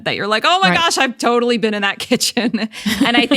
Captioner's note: laughs